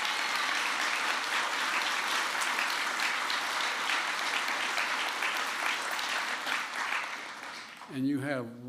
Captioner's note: applause